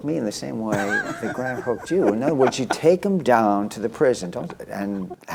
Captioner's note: laughter